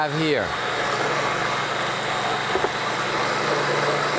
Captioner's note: blender whirring